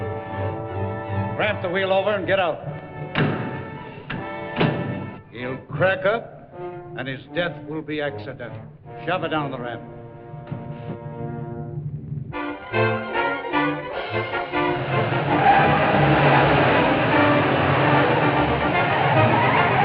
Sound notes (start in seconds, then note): 10.0 suspenseful music; 12.0 fast-paced music; 13.9 tires skidding